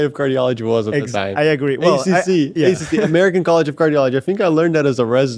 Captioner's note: laughs